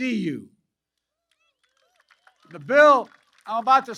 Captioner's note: applause